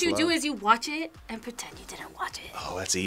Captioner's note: whispers